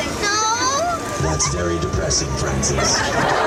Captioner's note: fountain; crowd laughing